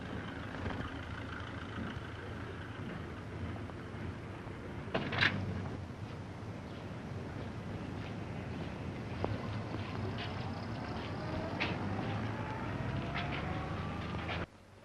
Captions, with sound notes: This is the basement. I know. Come on. I just want to see where this goes. [car engine sputtering]